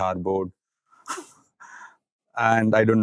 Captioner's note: snickers